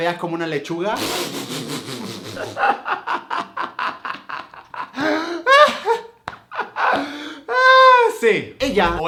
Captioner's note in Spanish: risa larga y rara